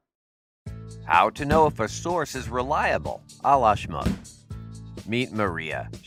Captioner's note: football hits man in head